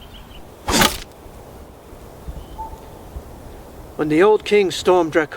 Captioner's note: arrow crashes